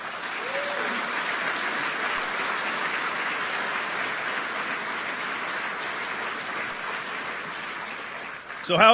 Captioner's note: applause